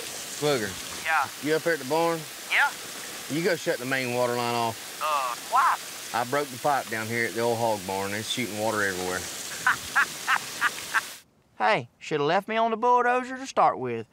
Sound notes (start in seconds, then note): 9.6 laughs on phone